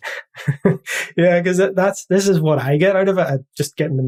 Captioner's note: laugh